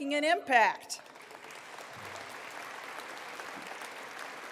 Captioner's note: applause